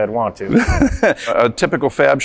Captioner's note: laughter